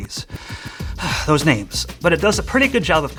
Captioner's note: sighs